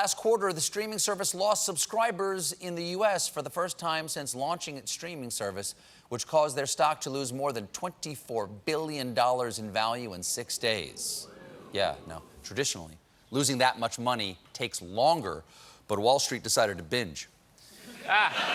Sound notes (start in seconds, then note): 10.7 audience reacts; 17.8 laughter